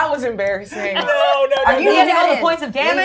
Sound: gamers laughing

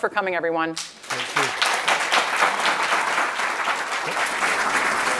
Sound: round of applause

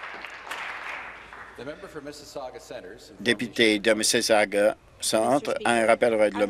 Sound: applause

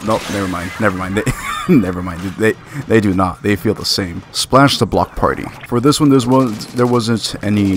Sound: laughs

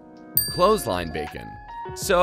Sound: dings

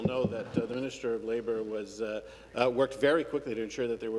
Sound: some Applause

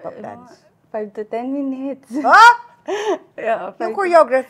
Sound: laughs shyly

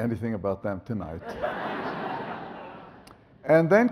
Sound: audience laughs

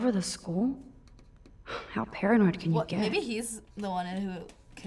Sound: scoffs

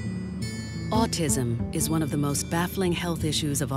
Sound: voiceover

